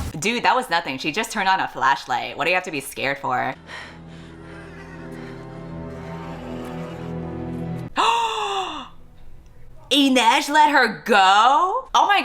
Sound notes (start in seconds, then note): 8.0 gasps